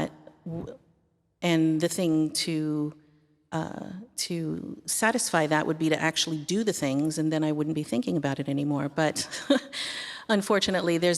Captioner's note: laughter